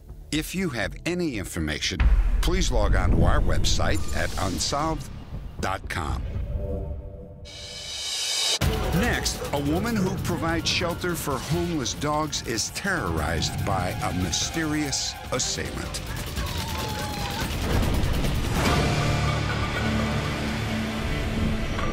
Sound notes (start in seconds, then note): 16.0 dogs crying